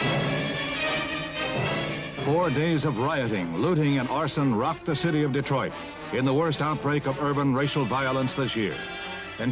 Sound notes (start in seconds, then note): 2.3 voiceover